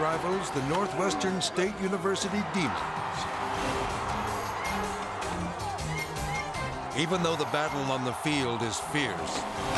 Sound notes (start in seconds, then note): 3.2 crowd cheering; 3.2 energetic dramatic music